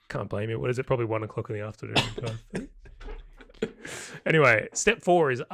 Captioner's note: laughing